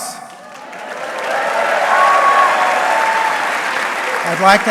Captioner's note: audience cheering